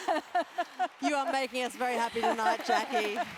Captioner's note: laugh